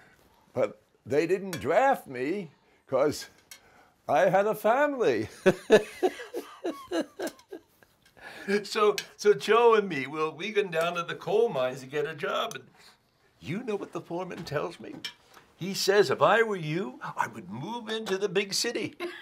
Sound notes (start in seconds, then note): 5.3 laughing